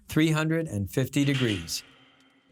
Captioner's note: metal clanking